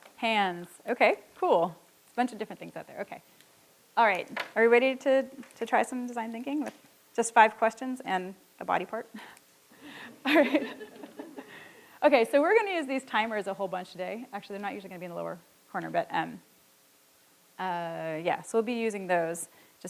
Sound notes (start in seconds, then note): 9.8 chuckles; 9.9 audience chuckling